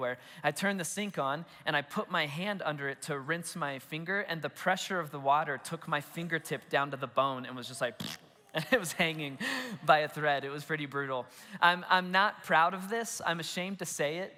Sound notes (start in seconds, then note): 7.9 blows raspberry